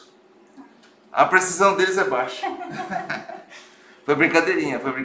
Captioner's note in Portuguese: risos